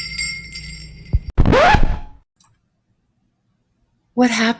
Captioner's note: record scratching